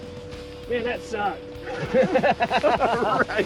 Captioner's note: laughter